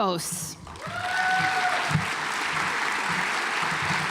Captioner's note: audience applauds